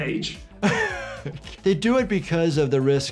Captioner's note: laughing